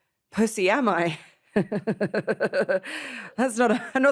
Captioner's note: laughs